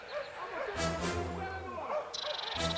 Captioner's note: dogs barking